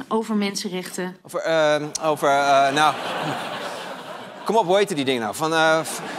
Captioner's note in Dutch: gelach